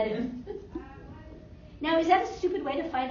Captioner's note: laughter